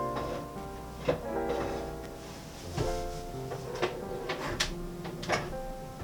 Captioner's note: heated oven